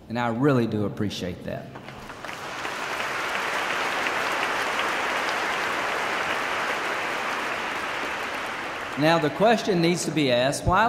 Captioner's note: applause